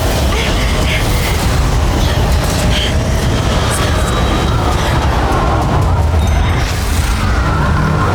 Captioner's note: whirlwind gushing